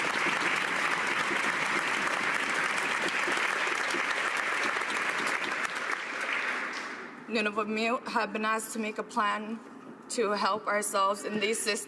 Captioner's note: cheers and applause